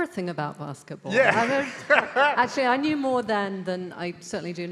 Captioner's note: laughs